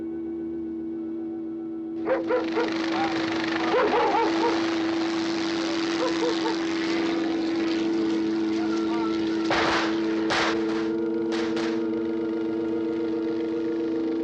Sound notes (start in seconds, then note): 2.0 barking continues; 4.5 helicopter whirring; 9.4 gunfire